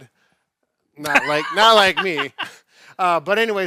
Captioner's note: laughing